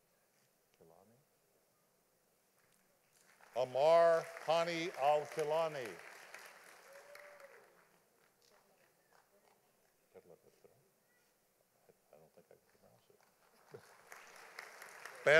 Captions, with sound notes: Amar Ponny Alculani. (audience applauding)